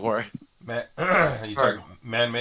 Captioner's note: clears throat